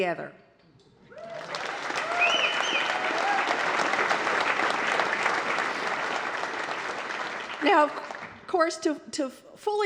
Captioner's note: applause